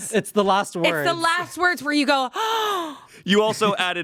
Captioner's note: gasps